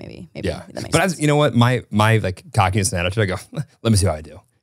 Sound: chuckles

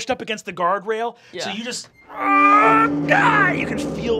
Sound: grunting

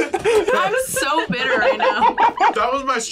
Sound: laughs

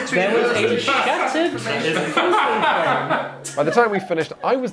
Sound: players laughing

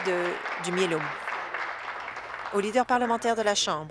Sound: applause

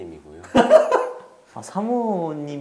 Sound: laughing

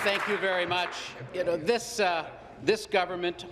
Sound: applause

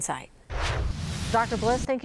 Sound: air whooshing

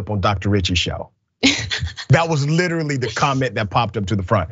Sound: laugh

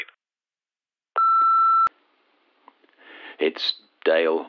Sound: beeps

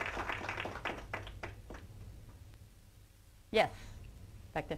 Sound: applause

